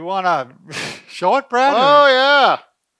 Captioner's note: chuckles